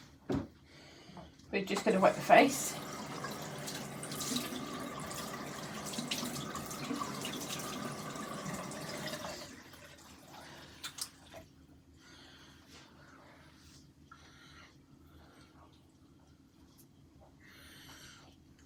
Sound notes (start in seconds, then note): 0.0 silence - breathing sounds; 8.6 running water